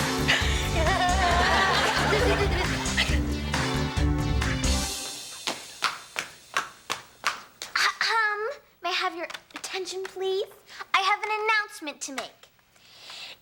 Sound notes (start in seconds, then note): 0.0 upbeat music; 0.2 audience laughing; 8.1 clears throat